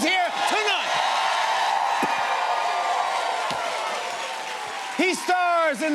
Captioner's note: cheers and applause